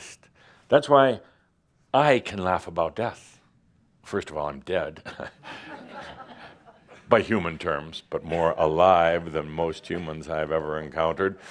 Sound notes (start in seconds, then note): 5.1 some laughter